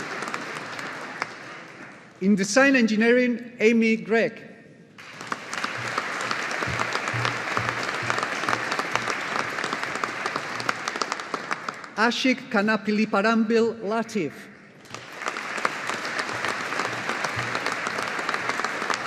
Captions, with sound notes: In Design Engineering Amy Grech. (AUDIENCE APPLAUDING) Aashiq Kanappilliparambil Latheef. (AUDIENCE APPLAUDING)